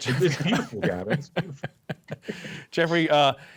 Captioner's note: laughter